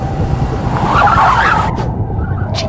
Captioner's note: tires screeching